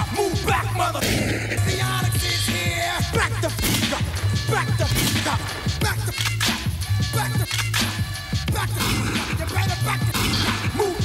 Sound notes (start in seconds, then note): 0.0 gun clicks; 1.0 shot fires; 4.9 shot fires; 6.1 gun clicks; 10.1 shot fires